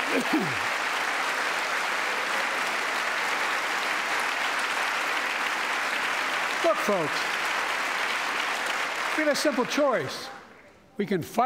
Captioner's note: applause